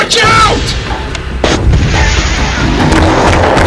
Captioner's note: Javelin fire